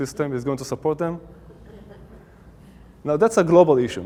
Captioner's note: audience Laughing